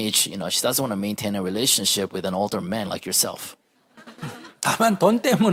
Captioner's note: audience Laughter